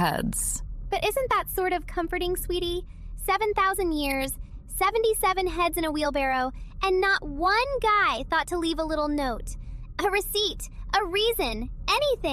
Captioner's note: playfully